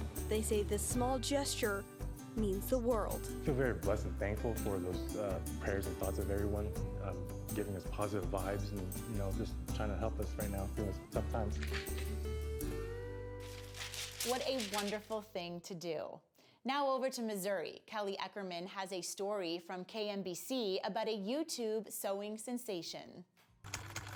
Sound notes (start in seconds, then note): 11.9 calm instrumental music; 13.4 paper shreds; 23.7 typewriter keys clack